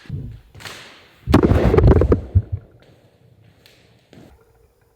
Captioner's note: camera falls to ground